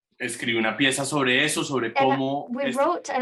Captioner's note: speaking in Spanish